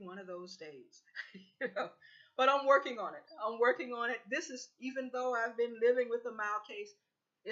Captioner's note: laughter